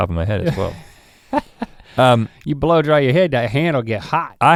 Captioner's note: chuckles